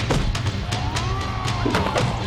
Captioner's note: thud